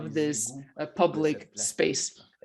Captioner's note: speaks French